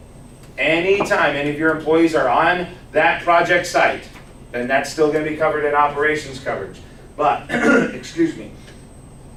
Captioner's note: clears throat